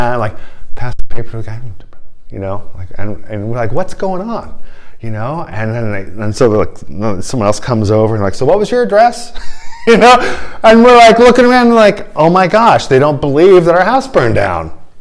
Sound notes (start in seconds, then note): 9.3 laughter